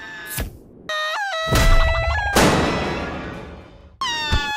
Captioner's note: basketball screams; basketball screams